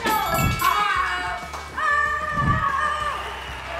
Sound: bell chimes; laughs; excited yelling

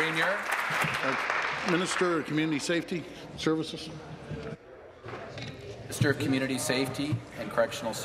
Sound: applause

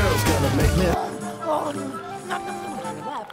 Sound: munching

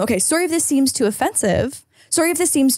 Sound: none

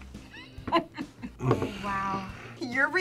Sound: laughs

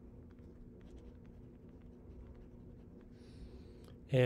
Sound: pen scratching

